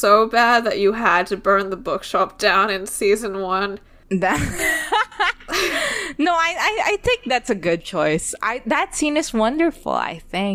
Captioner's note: laughs